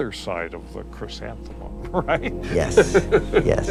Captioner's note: laughs